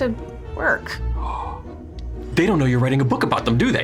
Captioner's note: gasps